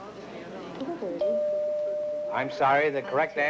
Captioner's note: bell dings